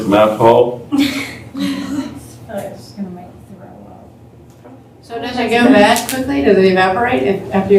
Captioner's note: laughter